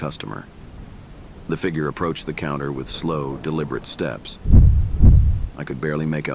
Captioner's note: footsteps